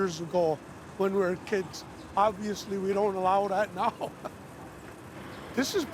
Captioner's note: chuckles